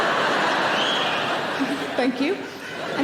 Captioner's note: audience laughing; audience member whistles